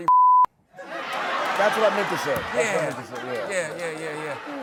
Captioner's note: laughter